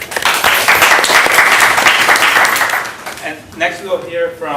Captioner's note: applause